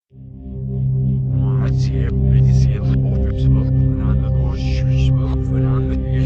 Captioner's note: menacing music; speaking in reverse